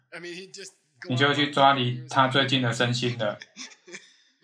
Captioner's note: laughs